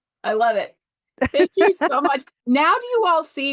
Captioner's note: laughter